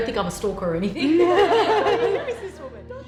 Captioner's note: laughter; slow ambient music